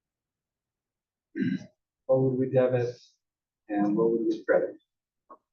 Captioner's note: cough